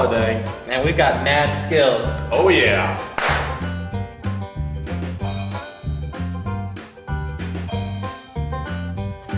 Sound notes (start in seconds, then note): 3.1 clap; 3.5 banjo music continues